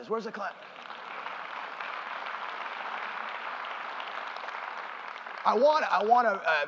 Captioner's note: applause